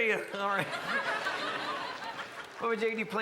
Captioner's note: crowd laughs